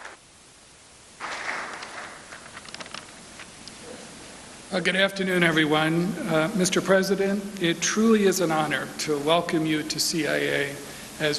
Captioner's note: applause